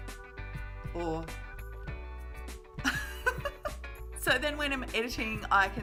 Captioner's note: pop music; laughs